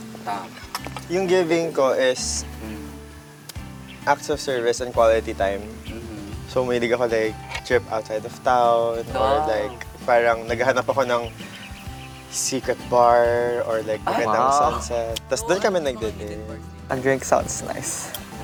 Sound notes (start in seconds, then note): 8.9 bong